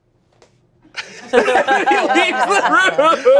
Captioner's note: everyone laughs